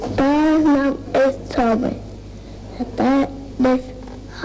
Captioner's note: child making sounds